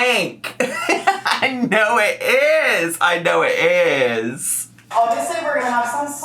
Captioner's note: laughs